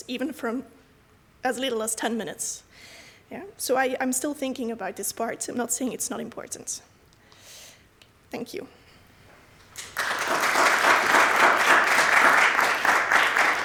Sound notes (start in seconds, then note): 9.7 applause